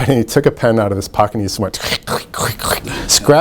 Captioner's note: mimics scratching